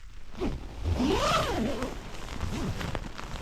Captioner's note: zipper